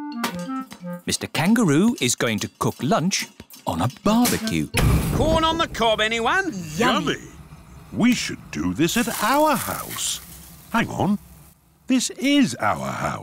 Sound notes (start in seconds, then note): none